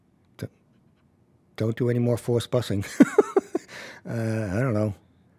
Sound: laughs

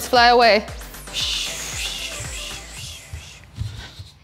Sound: imitates helicopter

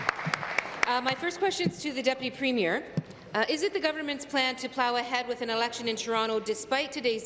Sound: applause

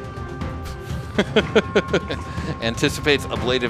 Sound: laughs

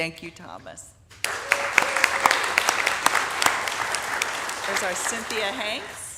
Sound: audience applauding

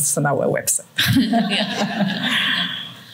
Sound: laughter

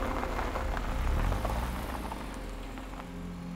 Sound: none

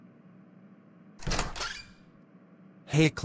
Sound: door opening

